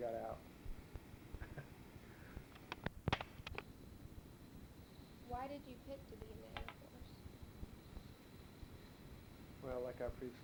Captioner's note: chuckles